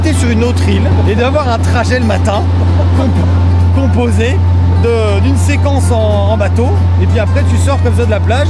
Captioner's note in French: rire